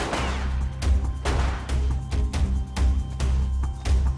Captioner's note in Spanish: Disparos